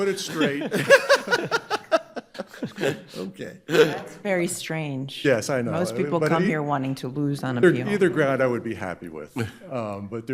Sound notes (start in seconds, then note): 0.0 judge laughing